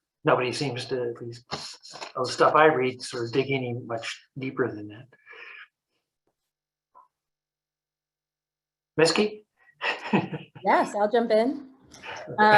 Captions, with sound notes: nobody seems to at least or the stuff I read is not digging in much deeper than that. Miski. (laughs) - Yes, I'll jump in.